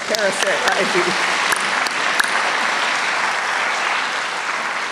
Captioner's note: applause